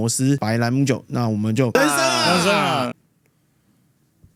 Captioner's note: cheers